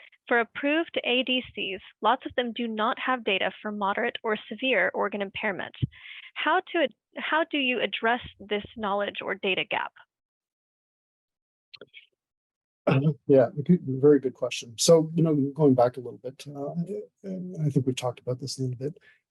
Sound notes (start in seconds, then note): 12.9 clears throat